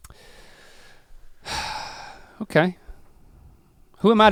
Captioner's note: sighs